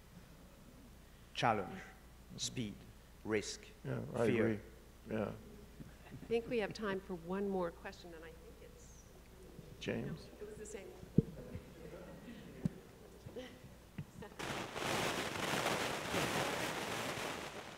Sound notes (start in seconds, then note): 11.2 chuckles; 14.0 audio crackling